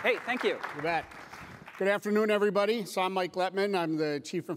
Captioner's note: applause